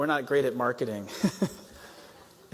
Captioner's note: laughter